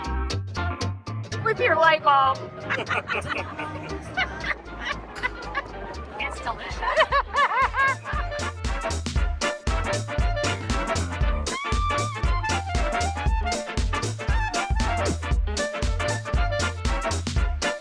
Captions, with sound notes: With your light bulb. (all laugh) - It's delicious. (upbeat music)